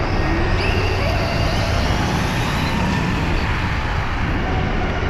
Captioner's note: electric motor screaming